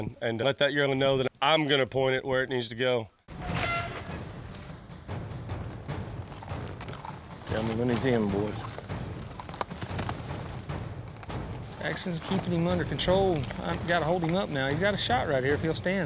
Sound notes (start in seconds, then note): 5.5 hoofbeats